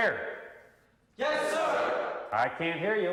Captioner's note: voiceover